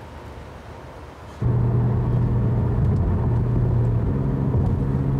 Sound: car driving

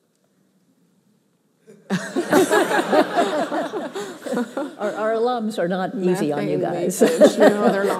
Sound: laughter

